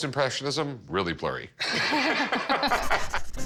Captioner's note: both laugh